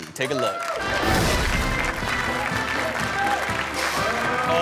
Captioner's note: audience cheering and clapping; upbeat music